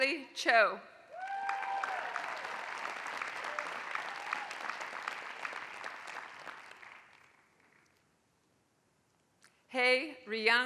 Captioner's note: applause